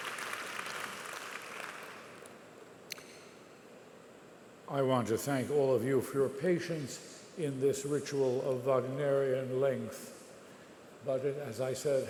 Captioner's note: applause